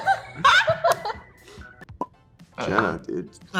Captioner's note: laughing